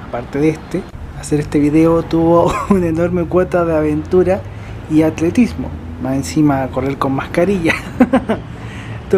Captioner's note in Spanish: risas